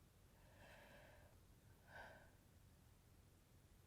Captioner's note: inspiration and long sigh